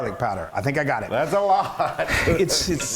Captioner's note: laugh